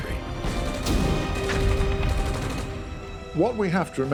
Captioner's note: gunfire